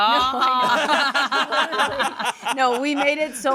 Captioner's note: everyone laughs